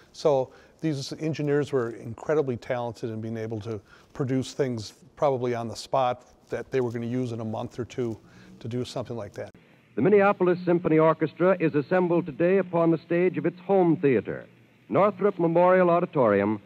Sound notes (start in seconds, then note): 9.6 radio Announcer